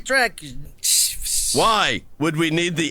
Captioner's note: imitating static